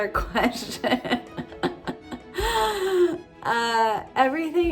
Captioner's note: chuckles